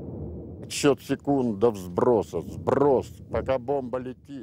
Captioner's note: speaking Russian